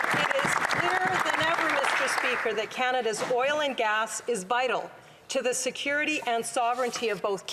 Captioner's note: applause